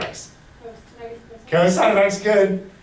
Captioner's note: voiceover